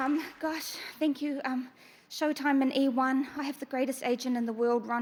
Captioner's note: cheers and applause